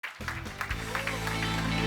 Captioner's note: applause